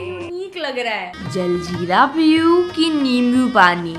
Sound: mimics

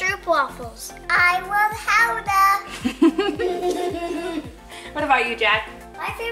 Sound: laughing

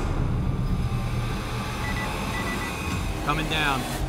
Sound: beeping

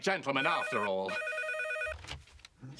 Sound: phone ringing

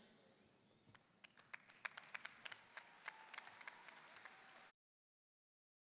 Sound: audience applauding

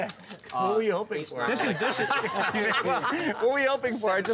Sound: laugh

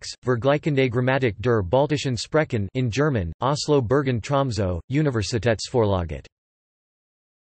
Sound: in German

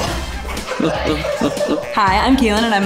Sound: laughs

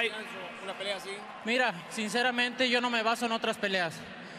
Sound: speaking Spanish

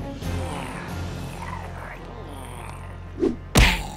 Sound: crow caws; zombie growling

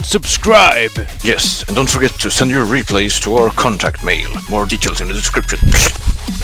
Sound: slurp

